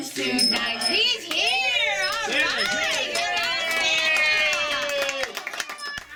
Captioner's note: cheering